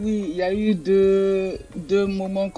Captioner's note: speaks in French